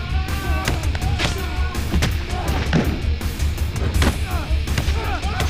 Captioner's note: men groaning; thudding; man screaming